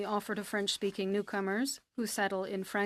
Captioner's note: speaking French